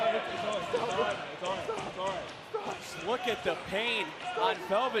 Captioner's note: crowd chatter